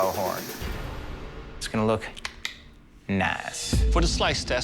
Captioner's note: snapping